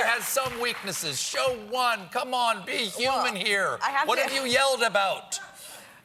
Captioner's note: laughter